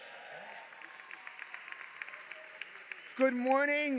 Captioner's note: audience applauding